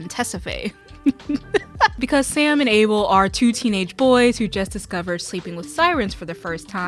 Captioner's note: obnoxious laughter